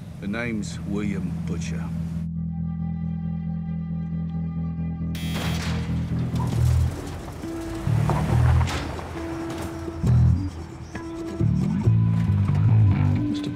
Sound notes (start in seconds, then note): 2.6 ominous music; 5.1 buzzer buzzing; 5.2 gravel crunching; 10.0 bass guitar music